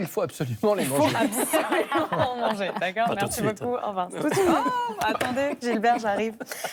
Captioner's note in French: rires